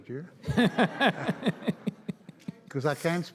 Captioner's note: audience laughs